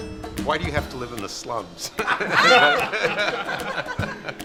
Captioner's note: laughter